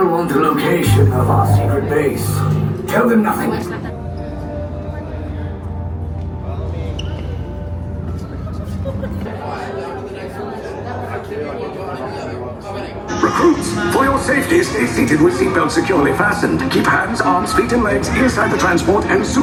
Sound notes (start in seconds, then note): 9.4 crowd chattering indistinctly